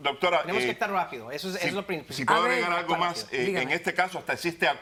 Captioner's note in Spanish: Hablan al unísono